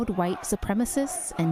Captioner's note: crowd chanting